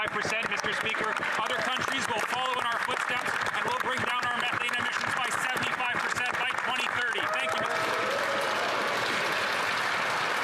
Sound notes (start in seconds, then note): 5.6 some Applause